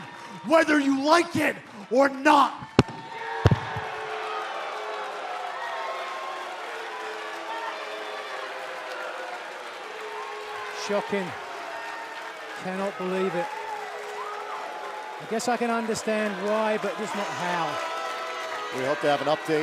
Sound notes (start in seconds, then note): 4.8 cheers and boos